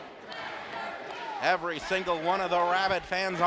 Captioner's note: crowd chanting "Masterpiece"